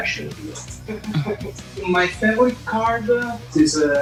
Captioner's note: laughing